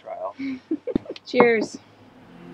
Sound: laughing

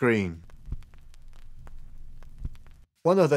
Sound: record needle crackling

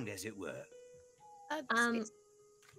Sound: owl hooting

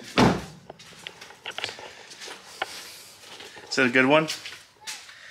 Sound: car door slams

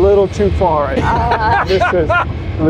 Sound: laughs

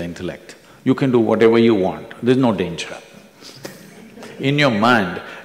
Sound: few laugh

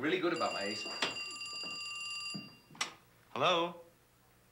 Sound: phone rings

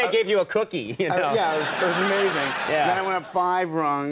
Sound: audience laughs

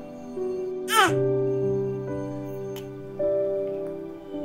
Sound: the baby is yawning

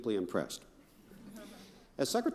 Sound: crowd chuckling

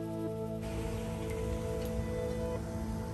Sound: wind blowing

